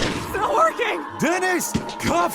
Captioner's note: gunshots